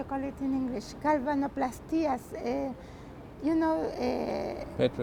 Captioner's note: spanish